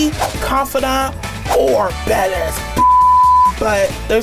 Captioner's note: beep